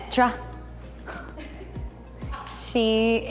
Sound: laughs

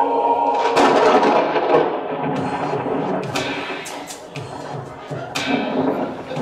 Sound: thunder

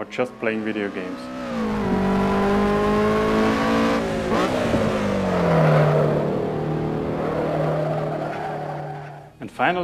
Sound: roaring engine sounds of a Lotus Elise SC

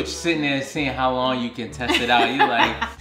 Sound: laughing

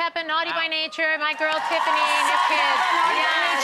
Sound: audience cheering

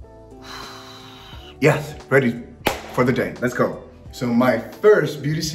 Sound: exhales; claps hands

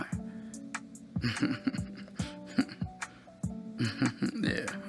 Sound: Malik snickers

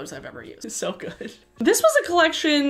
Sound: laughs

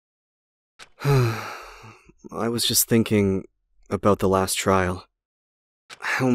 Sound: sigh

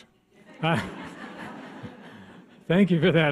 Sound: audience laughs

